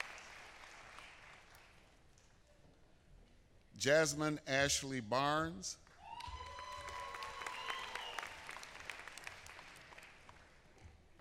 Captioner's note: applause